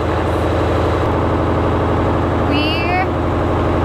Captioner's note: engine revving